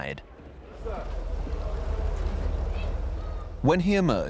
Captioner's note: people chattering